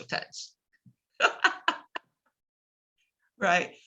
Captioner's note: laughs